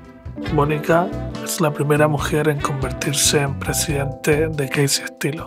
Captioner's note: narrator speaks Spanish